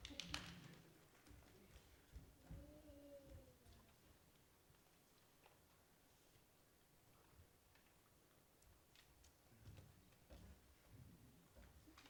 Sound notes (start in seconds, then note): 0.0 female dancer clapping; 1.1 footsteps thumping softly